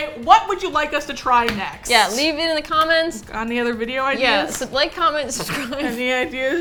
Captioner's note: laughs